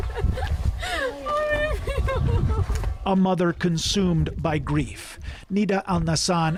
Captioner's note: crying